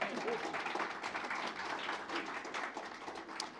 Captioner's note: applause